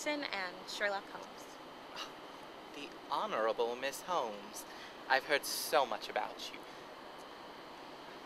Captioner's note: gasps